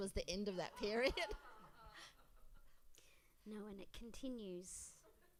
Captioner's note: laughs